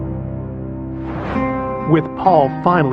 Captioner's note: air whoososhing